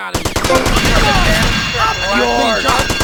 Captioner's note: gunshots